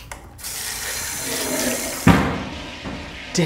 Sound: toilet Flush

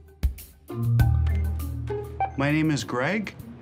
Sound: beeping

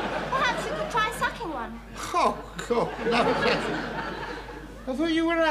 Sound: audience laughing

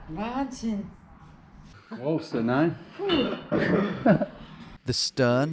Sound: speaking foreign language

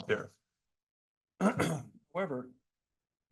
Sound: clears throat

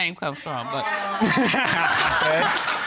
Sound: laughter

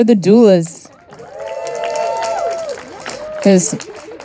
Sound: audience applauding and cheering

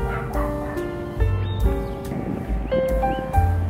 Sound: dogs bark; birds chirp

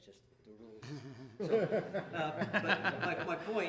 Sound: audience laughing

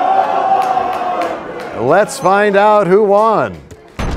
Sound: crowd crying "No!"

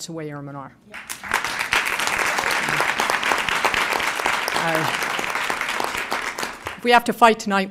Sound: applause

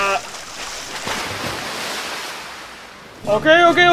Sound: water splash

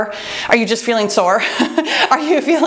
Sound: laughs

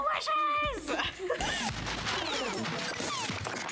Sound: crashing Sound

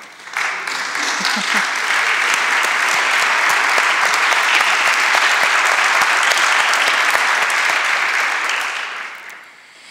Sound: applause

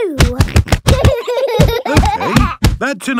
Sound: banging

